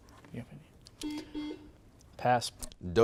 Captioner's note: buzzer beeps